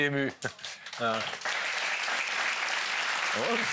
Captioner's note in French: applaudissements